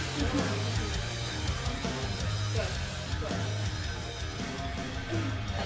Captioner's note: indistinct chatter